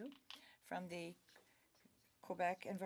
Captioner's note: speaking French